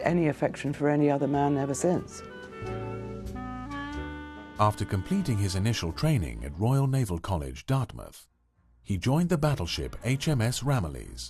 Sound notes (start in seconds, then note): 3.5 voiceover